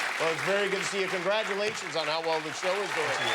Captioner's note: applause